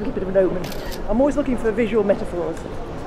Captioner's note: camera snaps